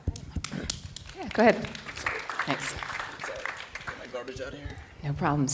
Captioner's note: audience applauding